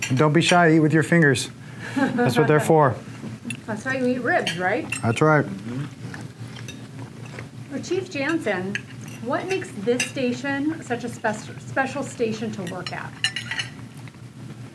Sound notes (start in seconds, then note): 6.3 clinking